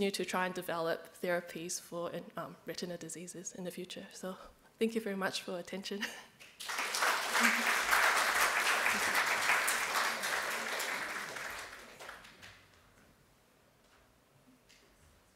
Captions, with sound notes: to try and develop therapies for retinal diseases in the future. So thank you very much for attention. (AUDIENCE CLAPS)